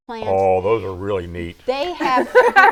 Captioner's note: laughing